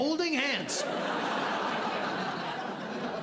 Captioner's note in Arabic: ضحك